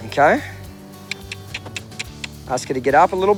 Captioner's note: clicking